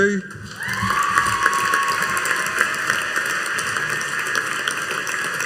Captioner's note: audience cheering and applauding